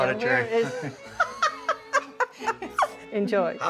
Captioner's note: laughing